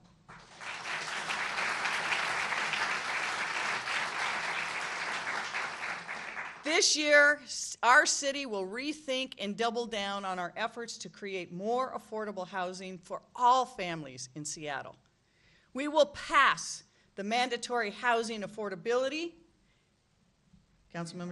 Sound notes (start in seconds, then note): 6.2 applause